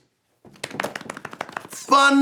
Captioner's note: hands drumming